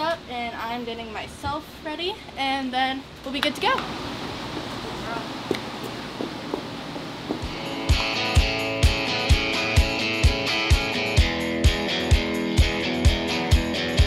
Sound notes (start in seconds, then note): 5.3 Posh's hooves clacking; 7.5 upbeat music